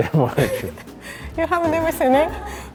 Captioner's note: laughing